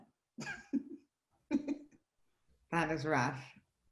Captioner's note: laughs